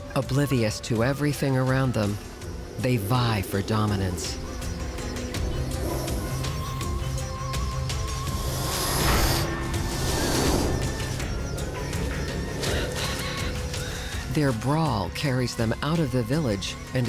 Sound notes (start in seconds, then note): 5.3 light dramatic music; 5.3 snakes hissing